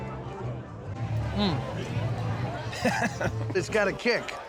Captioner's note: laughs